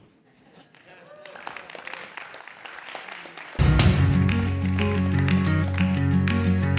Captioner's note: applause